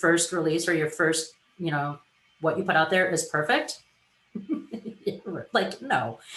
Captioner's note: laughs